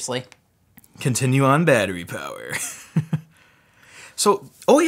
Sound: laughs

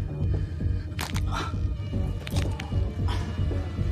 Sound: back cracks

